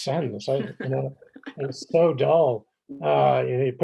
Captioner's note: chuckles